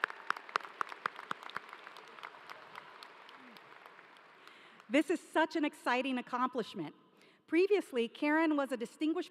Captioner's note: applause